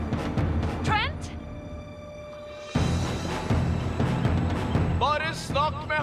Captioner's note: on walkie-talkie